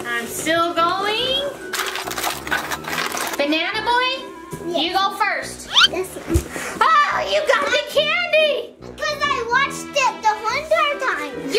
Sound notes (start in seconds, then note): 1.6 plastic cups rustling; 6.2 audio whistles